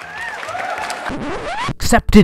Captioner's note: record scratch